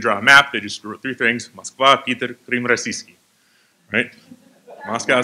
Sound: non-english speech

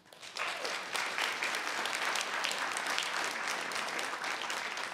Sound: audience applauding

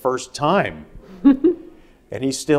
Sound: laughing

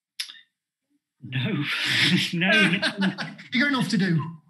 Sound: laughs

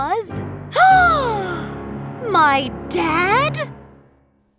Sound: gasping

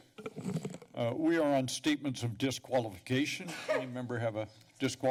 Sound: mic noise

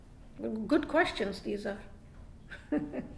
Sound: giggles

